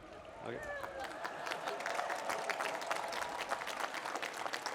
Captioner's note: applause